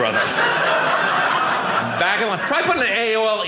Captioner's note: audience laughing